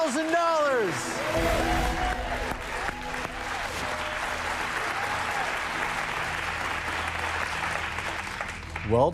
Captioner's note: cheers and applause